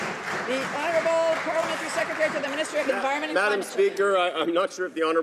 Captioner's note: some Applause